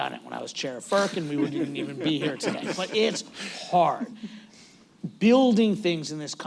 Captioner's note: laughter